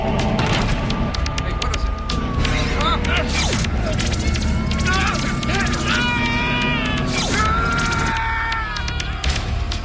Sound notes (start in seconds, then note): 3.0 И двамата крещят